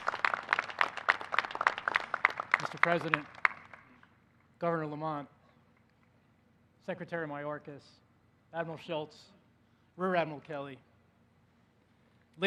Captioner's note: applause